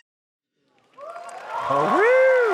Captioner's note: applause